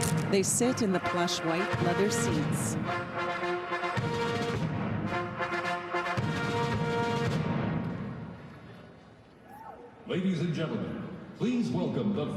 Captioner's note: cheers and applause